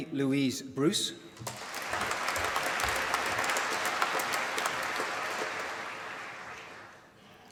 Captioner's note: applause